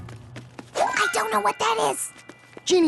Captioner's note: whisper